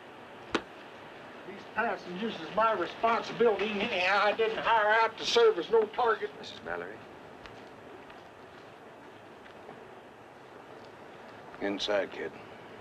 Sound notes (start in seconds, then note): none